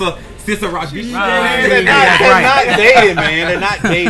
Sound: men laughing

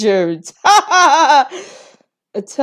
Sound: laughs

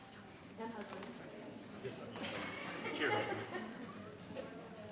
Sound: attendees chattering

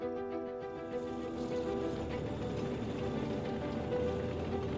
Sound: vehicle driving

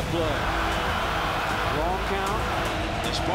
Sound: crowd cheers

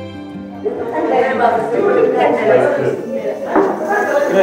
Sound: crowd chattering

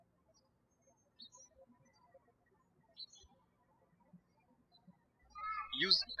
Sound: birds chirping

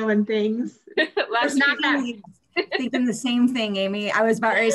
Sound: laughs

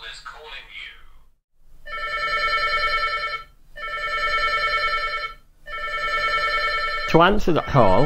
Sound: ring, Ring, Ring

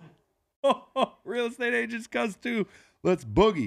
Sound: laughs

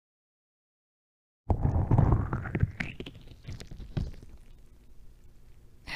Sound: sensuous squelch

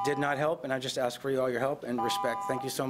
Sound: timer buzzing

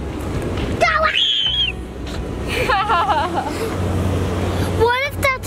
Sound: screaming; laughing

